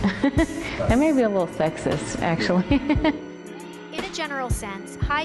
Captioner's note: laughs; laughs